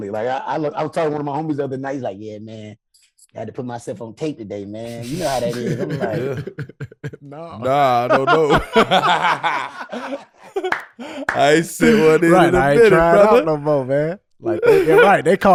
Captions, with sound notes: I was talking to one of my homies the other night. He's like, "Yeah, man had to put myself on tape today, man. "You know how that is." I'm like. - Nah, I dunno. (group laughing) I ain't sent one in a minute, brother, - I ain't trying to call no more, man.